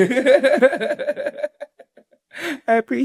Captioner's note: Ron laughing